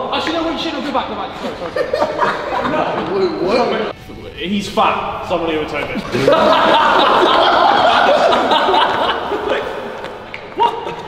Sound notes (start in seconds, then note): 0.0 laughing; 5.8 group laughing